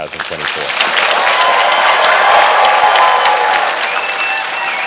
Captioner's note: audience cheering and clapping